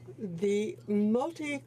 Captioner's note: speaking French